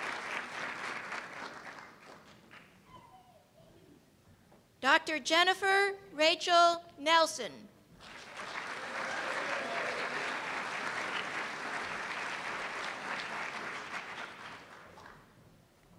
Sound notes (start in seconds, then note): 8.0 applause